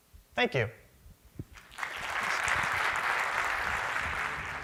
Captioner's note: applause